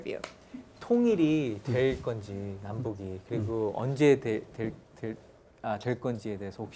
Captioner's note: speaking in Korean